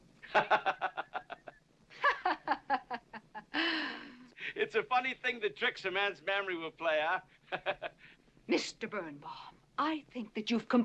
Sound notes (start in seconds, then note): 0.3 laughing to himself; 1.8 Katherine mocking